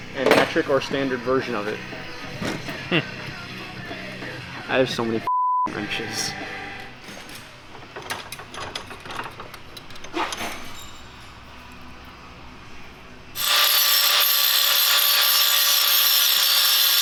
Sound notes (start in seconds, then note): 5.2 beep; 8.8 tool clanking; 13.3 saw whirring